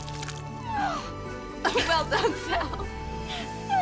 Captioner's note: vomit splashing; Gel groans; laughs